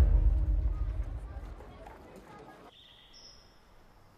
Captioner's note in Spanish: Bullicio